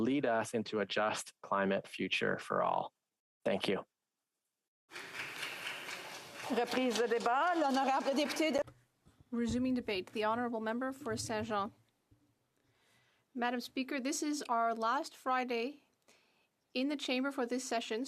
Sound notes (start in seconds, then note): 9.0 some Applause; 11.0 speaking French